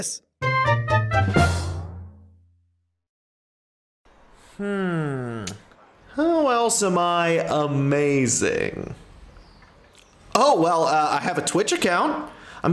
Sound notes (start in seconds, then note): 0.5 whimsical ending jingle; 5.4 smacks lips